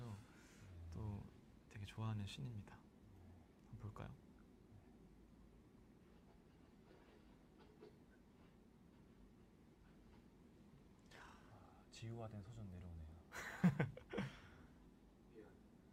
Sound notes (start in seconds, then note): 13.4 laughs